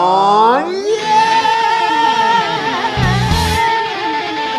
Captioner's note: screaming